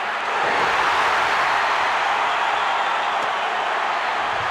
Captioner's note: crowd cheers